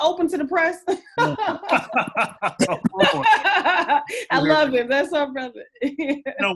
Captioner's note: laughter